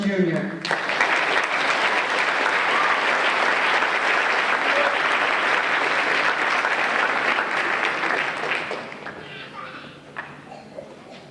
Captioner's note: applause